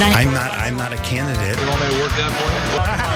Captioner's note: laugh